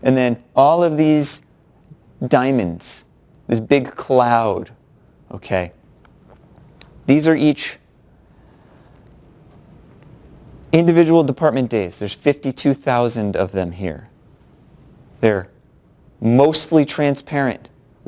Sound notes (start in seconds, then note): 8.9 pause